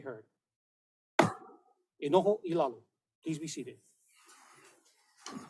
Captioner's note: gavel bangs once